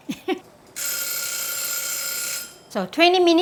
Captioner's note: laughs; timer rings